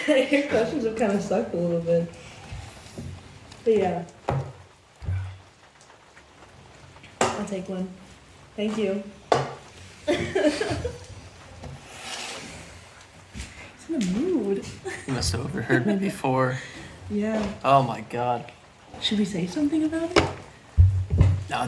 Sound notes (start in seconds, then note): 7.2 cup clanking; 10.0 giggles